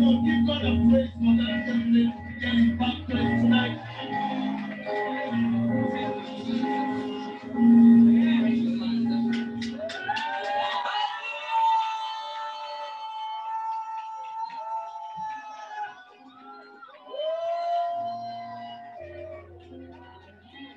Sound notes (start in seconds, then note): 3.4 applause; 9.3 cheering